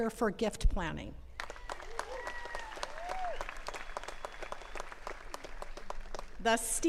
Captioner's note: attendees cheering and clapping